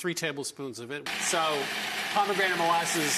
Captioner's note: blender whirs